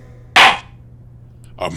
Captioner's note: gavel slams!